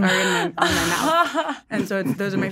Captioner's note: chuckling